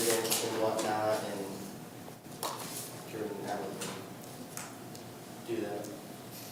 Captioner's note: speaks softly